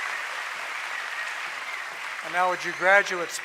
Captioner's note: applause